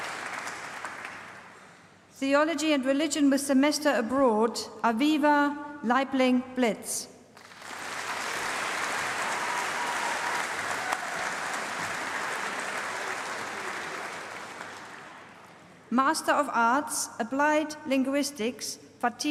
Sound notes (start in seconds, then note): 0.0 applause; 7.3 applause